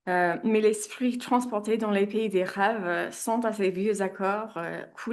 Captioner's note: speaks in French